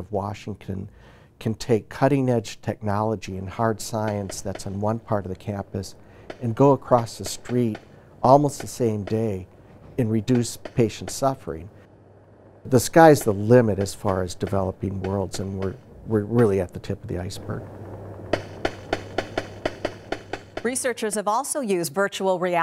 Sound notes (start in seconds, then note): 15.0 popping